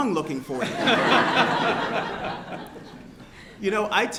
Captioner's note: laughter